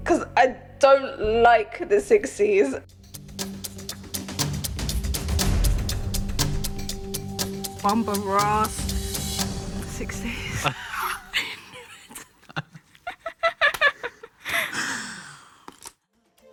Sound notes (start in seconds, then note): 3.8 tense music; 13.1 laughs